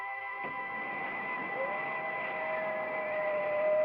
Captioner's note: ominous music; wind blows; doors open; dog howls; ominous music